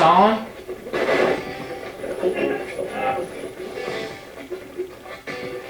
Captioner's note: radio channel changing